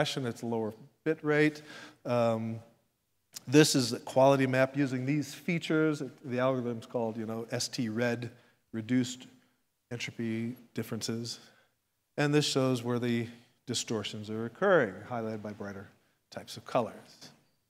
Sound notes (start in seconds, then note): none